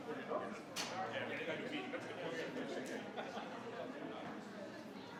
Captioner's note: attendees chattering